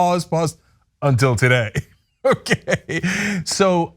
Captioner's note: laugh